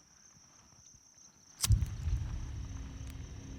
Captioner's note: lighter clicks